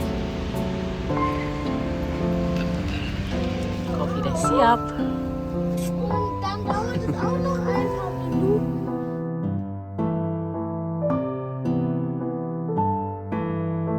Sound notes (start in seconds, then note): 0.3 background music; 6.3 speaking German; 10.7 background music